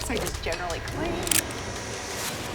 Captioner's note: gun clicking